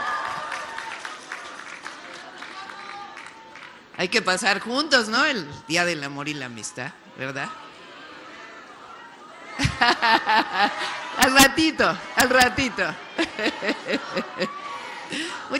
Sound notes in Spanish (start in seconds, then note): 0.0 aplausos; 9.5 risas